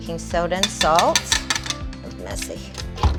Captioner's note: glass clinks